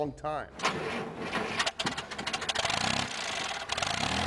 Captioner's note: car sputtering